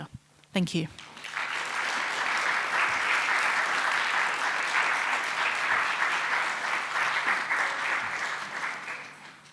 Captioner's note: audience applauds